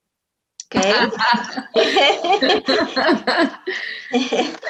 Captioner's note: audience laughing